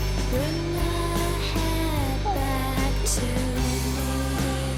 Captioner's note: none